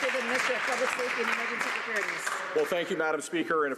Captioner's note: some Applause